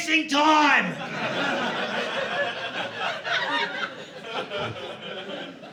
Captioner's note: audience laughing